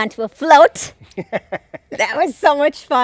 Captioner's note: laughing